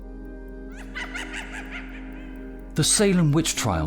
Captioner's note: birds cawing